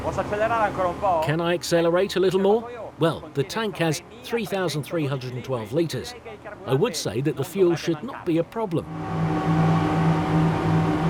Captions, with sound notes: (speaking in foreign language) Can I accelerate a little more? Well, the tank has 3,312 liters. I would say that the fuel should not be a problem.